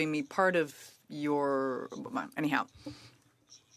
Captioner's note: speaking French